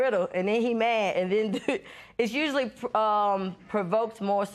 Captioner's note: laughs